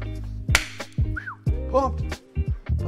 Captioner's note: claps; whistles